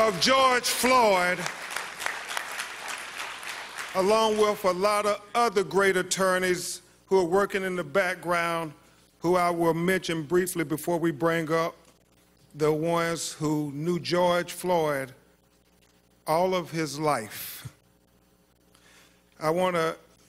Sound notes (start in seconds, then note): 2.0 applause